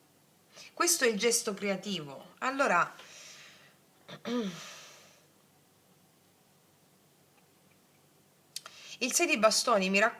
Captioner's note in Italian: schiarire la voce